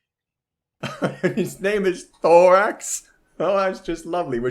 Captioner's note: laughs